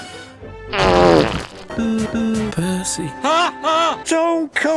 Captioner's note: fart